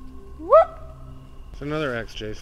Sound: whoops

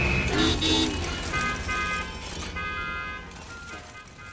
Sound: honking

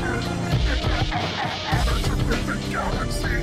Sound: laughing heroically XD

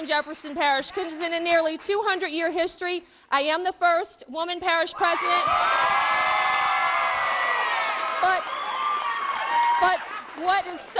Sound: cheers and applause

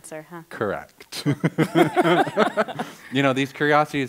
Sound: laughs and others laugh

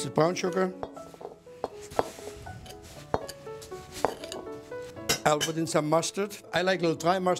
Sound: bowl noises

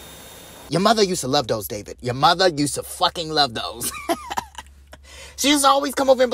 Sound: laughter

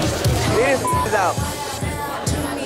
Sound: upbeat dance music continues; beep

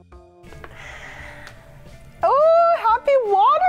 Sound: sighs

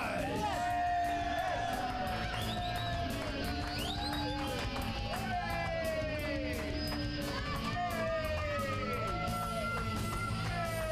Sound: audience cheering; upbeat rock music

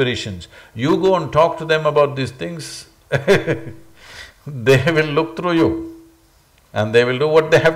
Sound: laughs

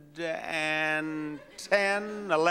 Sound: audience laughs

